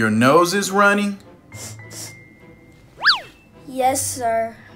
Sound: sniff sniff noises

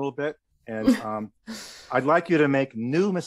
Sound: chuckles

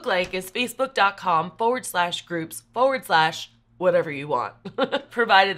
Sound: chuckles

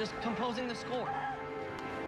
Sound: woman screams

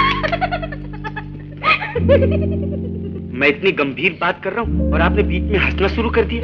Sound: laughs

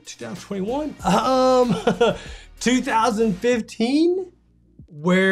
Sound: sighs

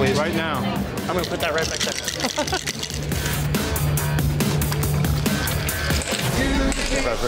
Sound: chuckling

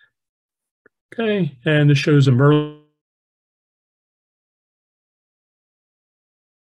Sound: microphone fades

